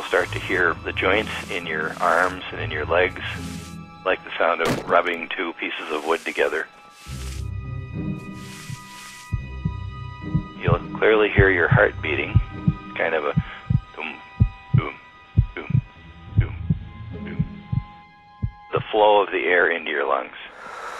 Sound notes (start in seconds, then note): 7.5 wood grinding; 18.4 heart thumping